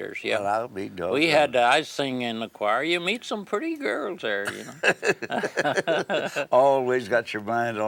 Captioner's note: laughs